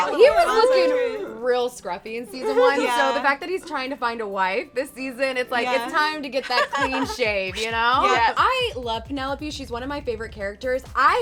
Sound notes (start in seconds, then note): 6.6 chuckles